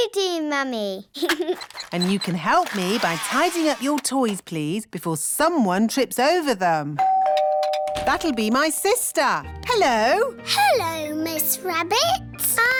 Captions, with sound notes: YOU do, Mummy. (GIGGLES) And you can help me by tidying up your toys, please, before someone trips over them. (DOORBELL RINGS) -That'll be my sister. -Hello. Hello, Miss Rabbit.